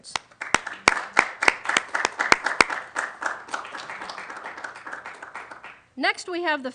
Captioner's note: applause